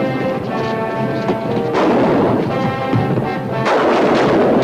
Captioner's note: guns firing